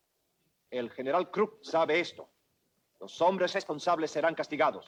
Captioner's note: Ramirez speaks Spanish